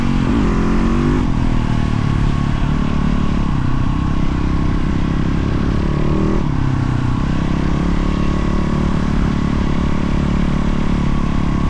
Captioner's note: engine revving